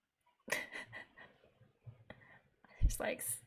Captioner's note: laughs